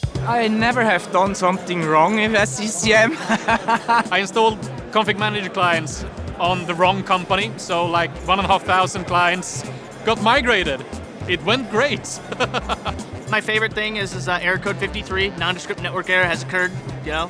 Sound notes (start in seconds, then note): 0.0 upbeat music; 3.0 laughter; 12.2 laughter